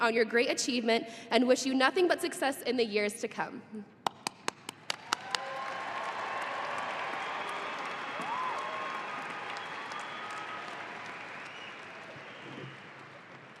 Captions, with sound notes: on your great achievement and wish you nothing but success in the years to come. (audience applauding)